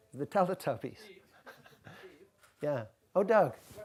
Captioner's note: voiceover; voiceover